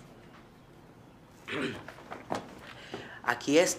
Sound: clears throat

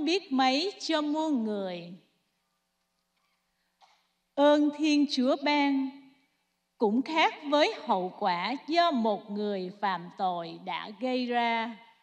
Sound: speaking non-english

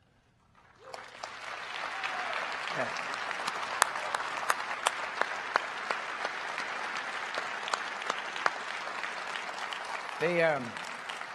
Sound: applause

